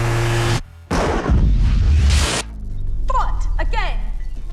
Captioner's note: loud thundering